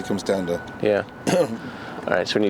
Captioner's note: coughs